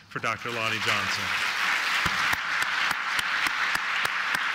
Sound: applause

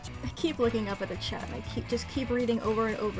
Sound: none

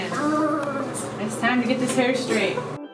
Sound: groans

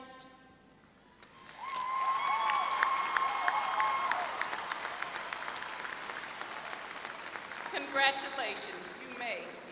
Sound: applause

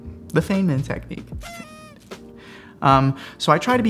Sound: party favor blows

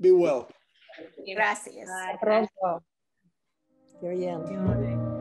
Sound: speaking in foreign language; soft soothing music

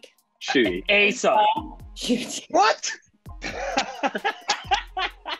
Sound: Ncuti laughing

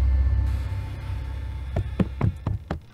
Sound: door creaks; footsteps

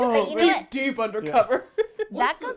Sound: laughing; laughs

